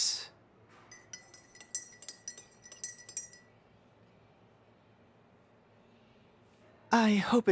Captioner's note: SFX: stirring tea